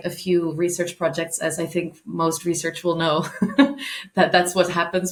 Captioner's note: chuckling